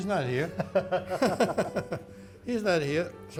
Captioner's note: both laugh